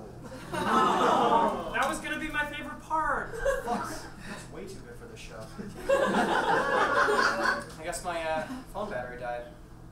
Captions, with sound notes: - That was gonna be my favorite part. - That's way too good for the show. (audience laughs) I guess my phone battery died.